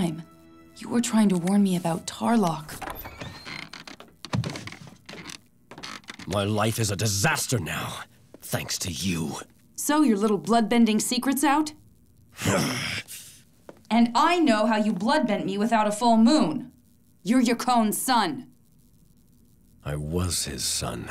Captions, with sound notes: you were trying to warn me about Tarrlok. [creaking] My life is a disaster now, thanks to you. So your little blood bending secret's out? [groaning] And I know how you bloodbent me without a full moon. You're Yakone's son. I was his son.